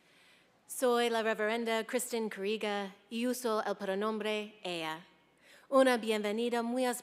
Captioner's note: speaking in foreign language